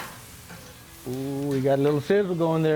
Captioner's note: sizzling